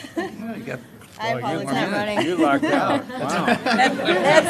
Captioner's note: collective chatter